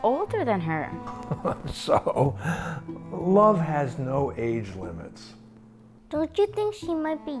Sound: laughs

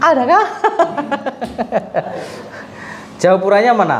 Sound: laughs

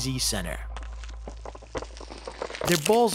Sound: crunching

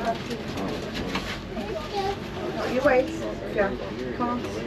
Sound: passengers chattering

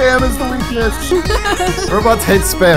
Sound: laughs

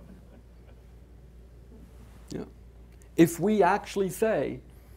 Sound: audience chuckling

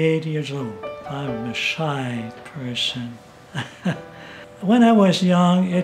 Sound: laughs

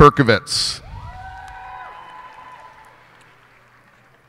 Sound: cheers and applause

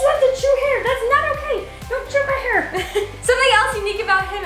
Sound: laughs

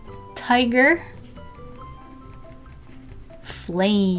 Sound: pencil scratching

